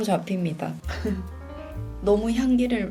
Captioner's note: sniff sniff